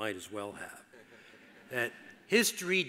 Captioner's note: audience laughs